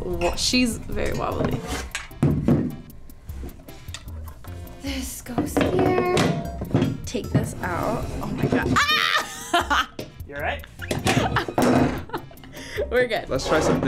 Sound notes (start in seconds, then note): 8.7 yells; 12.2 laughs